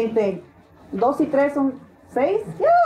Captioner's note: Spanish